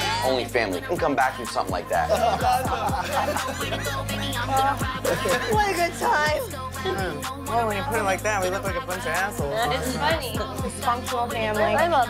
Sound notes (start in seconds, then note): 1.9 laughing